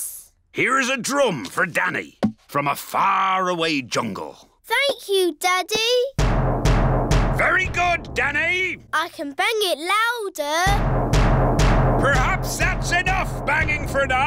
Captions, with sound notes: Here is a drum for Danny, from a faraway jungle. Thank you, Daddy. Very good, Danny. I can bang it louder. (BANGING) Perhaps that's enough banging for now.